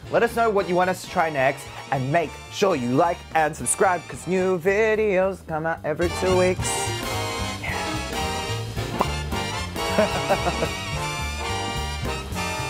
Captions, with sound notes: Let us know what you want us to try next. And make sure you like and subscribe 'cause new videos come out every two weeks. (jazzy music) (chuckles)